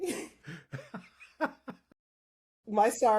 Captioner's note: both Laughing